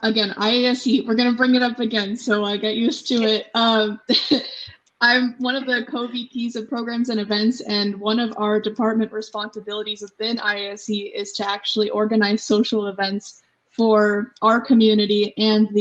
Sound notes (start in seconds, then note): 5.4 laughs